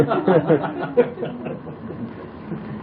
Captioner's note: laughter